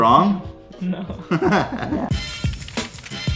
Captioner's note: laughing